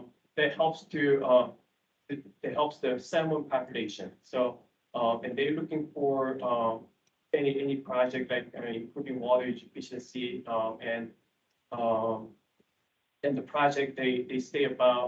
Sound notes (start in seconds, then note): none